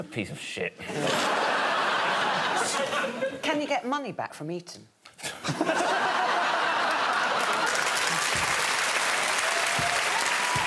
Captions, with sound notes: Dan Jones is a piece of shit. Can you get money back from Eton? [audience clapping and cheering]